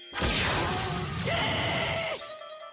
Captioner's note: screams